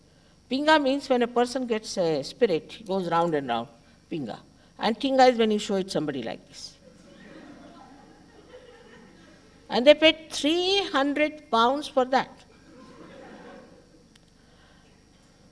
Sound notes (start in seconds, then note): 6.8 laughter